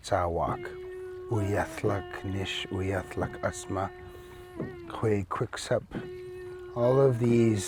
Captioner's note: speaks in Indigenous language